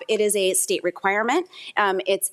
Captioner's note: none